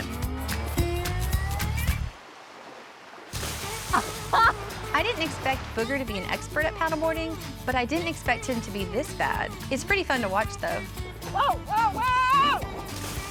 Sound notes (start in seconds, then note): 1.5 splash; 4.3 chuckles; 12.4 splash